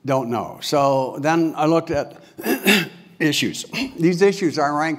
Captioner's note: cough